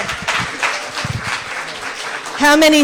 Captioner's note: applause